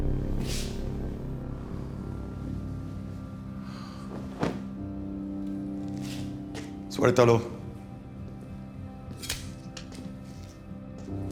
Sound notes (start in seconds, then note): 7.2 spanish; 8.6 click